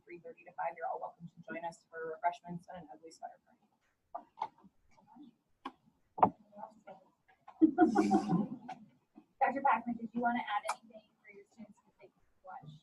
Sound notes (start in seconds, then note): 7.6 overlapping laughter